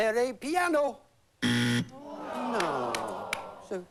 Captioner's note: buzzer